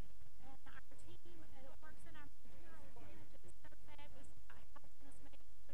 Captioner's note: feedback drowning out speech